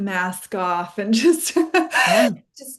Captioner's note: laughs